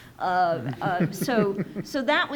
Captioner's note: audience chuckles